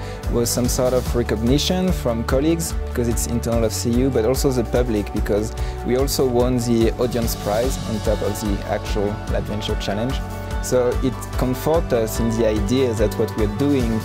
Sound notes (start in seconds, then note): 3.9 speaks; 8.1 speaks